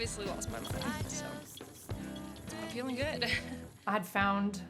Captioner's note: laughing